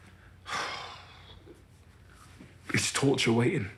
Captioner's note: he sighs